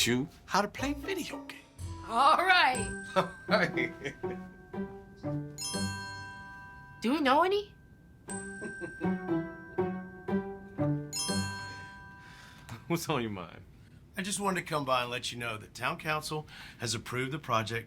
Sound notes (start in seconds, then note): 2.4 laughs; 3.1 chuckles; 3.9 playful music; 8.6 James laughs